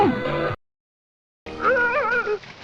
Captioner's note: high-pitched yelling